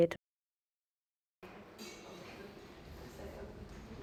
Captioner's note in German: Klappern im Hintergrund